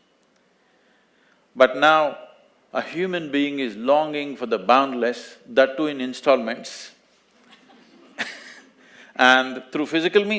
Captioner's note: few laugh